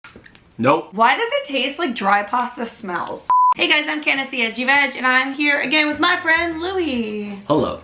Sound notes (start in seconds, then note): 3.3 beep